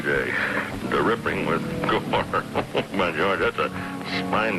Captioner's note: chuckles